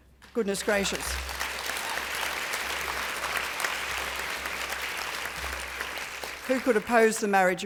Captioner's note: applause